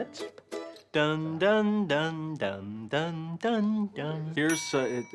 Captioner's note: humming Jeopardy! theme; dings